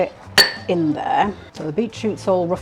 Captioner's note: chopping